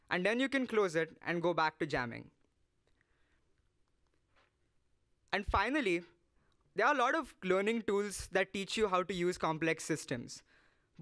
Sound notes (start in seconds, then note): none